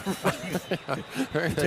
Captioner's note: laughter